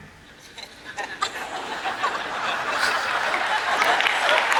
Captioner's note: audience laughs